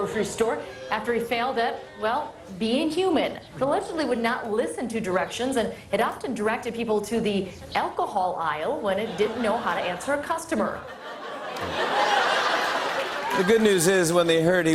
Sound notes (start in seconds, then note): 10.7 laughter